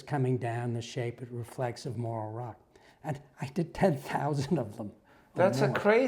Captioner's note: laugh